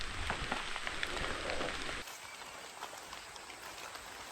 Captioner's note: animal sounds